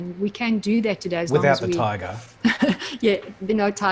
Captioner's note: laughs